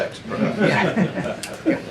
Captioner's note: laughter